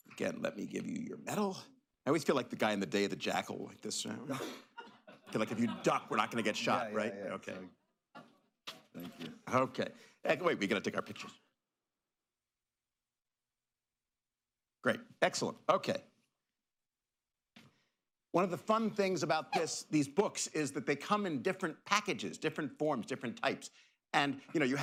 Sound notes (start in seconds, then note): 4.2 laughter